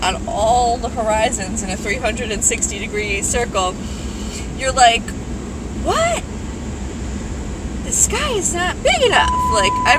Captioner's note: vehicle screams in alarm